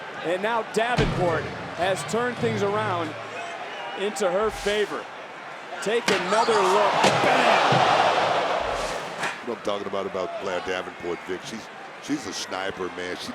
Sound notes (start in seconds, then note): 0.0 crowd chattering; 4.6 transition whooshing; 6.4 crowd oohing; 6.6 Roxanne yelling